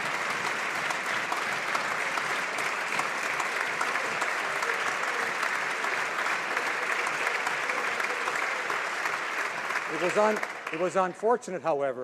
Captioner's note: applause